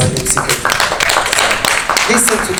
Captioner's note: people clap hands